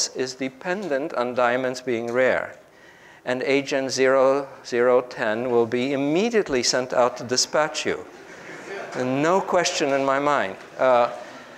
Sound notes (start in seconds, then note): 8.1 group laughs